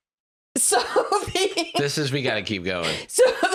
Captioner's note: laughing